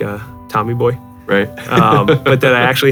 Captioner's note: chuckles